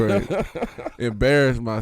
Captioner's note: laughing